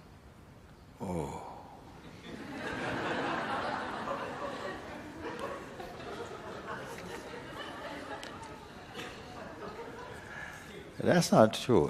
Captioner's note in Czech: smích